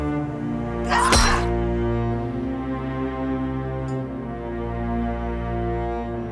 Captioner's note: dramatic music; person screams; lamp thuds